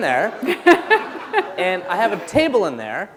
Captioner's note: laughter